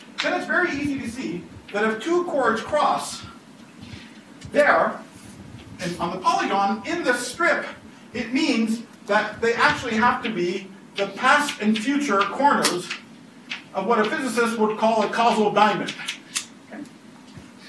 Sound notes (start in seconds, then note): none